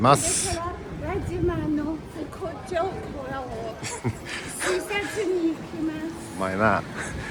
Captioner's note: laughs